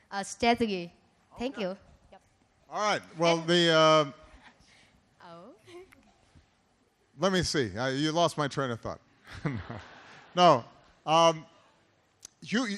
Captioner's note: laughter